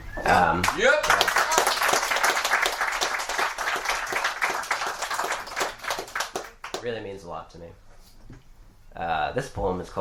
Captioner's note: applause